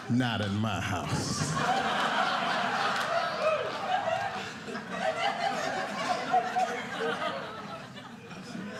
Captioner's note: audience laughing